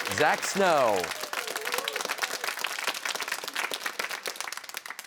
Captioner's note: cheers and applause